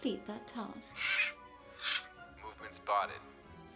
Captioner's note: Marrow squawking